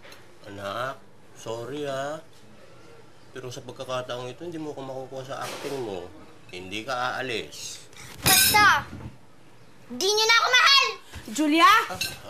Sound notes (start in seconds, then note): 8.8 thuds